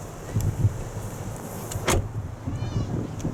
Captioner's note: closing driver's door